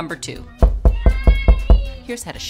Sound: knocking on door; child yelling

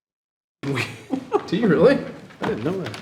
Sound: trustees chuckling

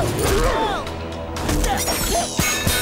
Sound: grunting

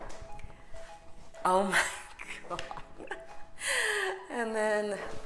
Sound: giggles

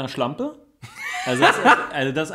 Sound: laughs

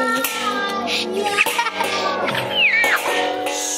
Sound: loud banging

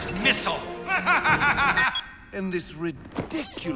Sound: laughing

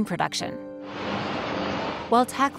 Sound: house crashing in water

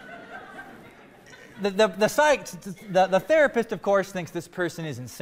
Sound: laughter

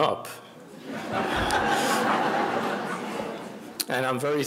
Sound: audience laughing

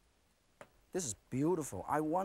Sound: none

